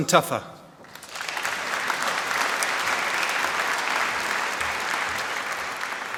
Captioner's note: applause